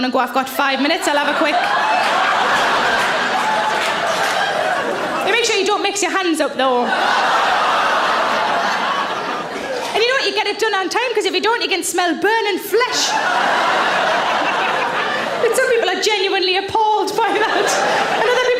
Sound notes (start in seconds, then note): 2.3 audience laughs; 6.9 audience laughs; 12.7 audience laughs